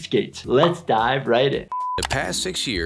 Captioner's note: beeping